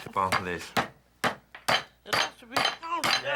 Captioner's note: hammering